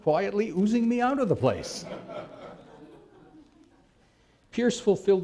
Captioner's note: laughter